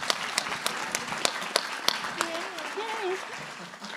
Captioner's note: applause